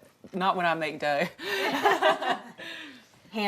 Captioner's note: laughing